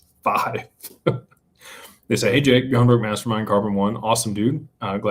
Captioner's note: laughter